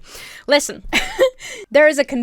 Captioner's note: giggles